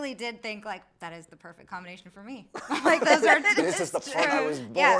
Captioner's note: laughs